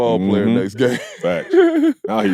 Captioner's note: laughs